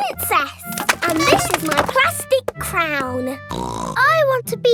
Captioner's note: snorts